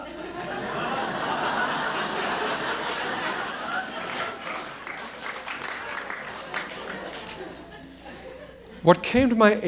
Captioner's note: audience laughter and applause